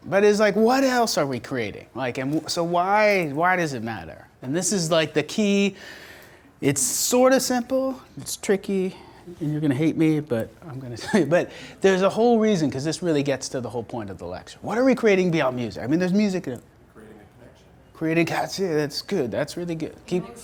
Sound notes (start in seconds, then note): 17.1 voiceover